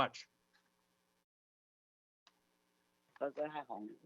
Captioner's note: speaks non-English language